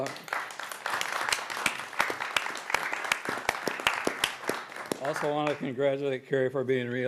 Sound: applause

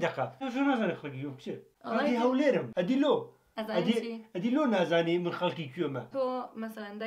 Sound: doing an Erbil dialect

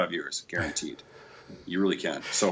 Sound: chuckles

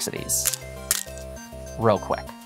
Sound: stones clattering

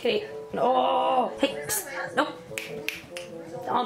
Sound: snap snap snap

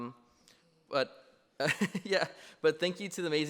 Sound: laughs

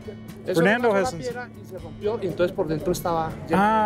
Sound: speaking Spanish

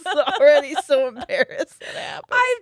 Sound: both laughing

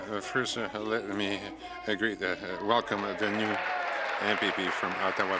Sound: applause

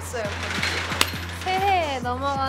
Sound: clap

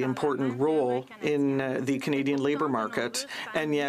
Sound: speaking French

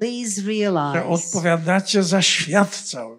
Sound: foreign language

